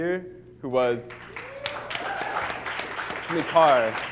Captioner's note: applause